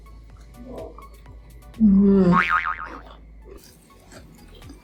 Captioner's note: chuckles; mm-mmm; boing